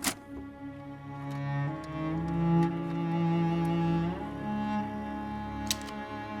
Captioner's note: melancholy music playing; film snaps